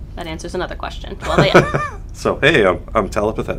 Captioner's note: laughter